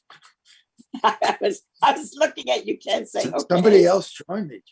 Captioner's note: chuckling; laughing